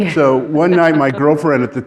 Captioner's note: laughing